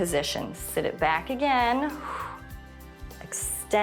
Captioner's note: short exhale